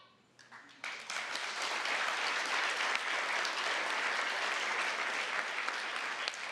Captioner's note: applause